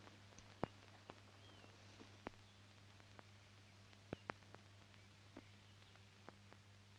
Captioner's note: rustling sound; birds chirping